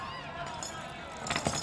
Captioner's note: metal clanging